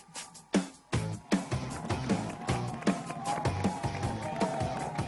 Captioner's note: applause